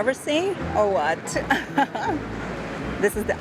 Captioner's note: laughs